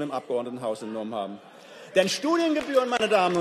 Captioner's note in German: Beifall